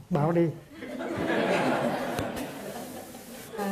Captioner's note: audience laughs out loud